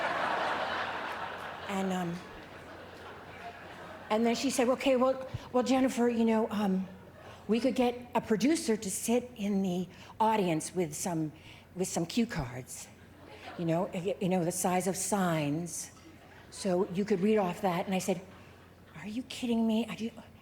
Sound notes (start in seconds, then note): 13.0 laughter